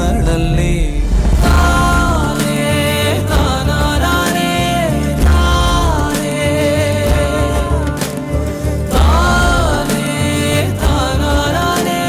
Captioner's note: humming